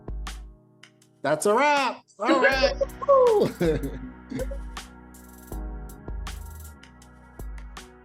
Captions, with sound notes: That's a wrap! Alright! Woo! (laughter)